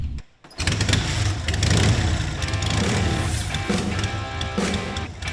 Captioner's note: motorcycle engine roaring; rock music playing